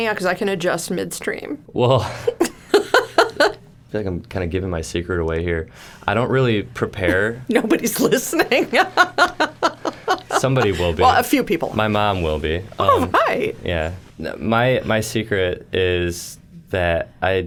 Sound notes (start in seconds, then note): 2.0 giggling; 7.6 laughing